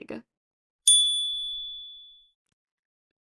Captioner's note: chime